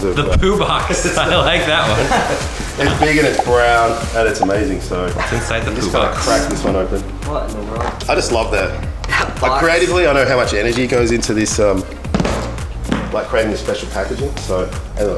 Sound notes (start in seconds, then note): 1.8 laughing